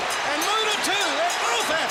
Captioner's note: bell ringing